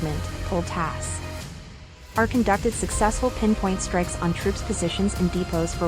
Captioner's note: Ukrainian